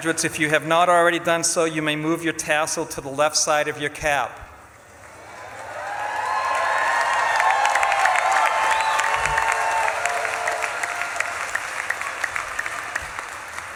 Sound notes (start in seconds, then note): 5.0 audience claps and cheers